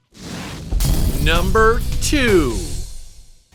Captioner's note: explosion rumbles